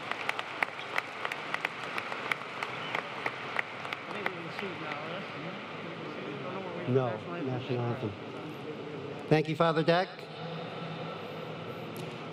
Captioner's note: applause